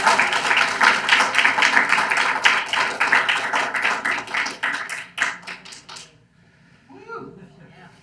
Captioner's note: audience applauds